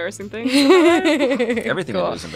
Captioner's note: laughs